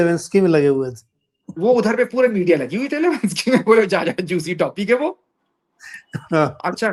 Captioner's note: laughs